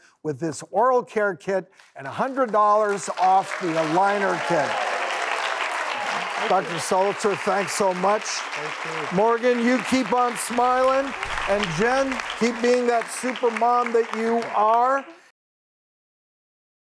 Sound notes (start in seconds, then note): 5.2 audience applauds